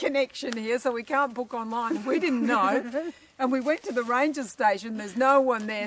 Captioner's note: laughter